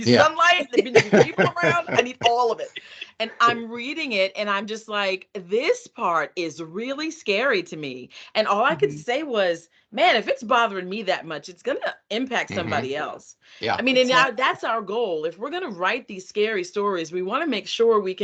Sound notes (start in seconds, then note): 0.7 laughing